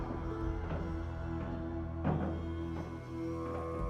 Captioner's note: footsteps